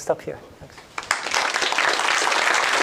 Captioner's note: applause